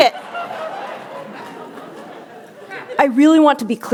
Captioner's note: laughter